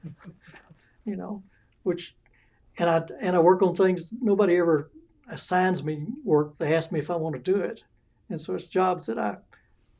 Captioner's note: laughter